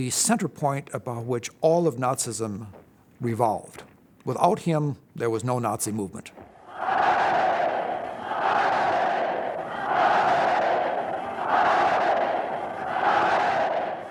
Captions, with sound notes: the center point about which all of Nazism revolved. Without him, there was no Nazi movement. [crowd chanting "Heil"]